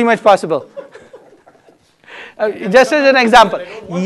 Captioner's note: laughter